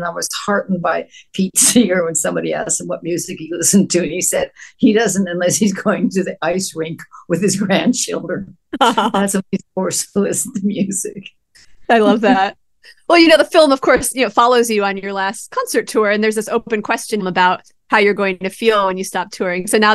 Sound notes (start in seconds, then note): 8.7 laughs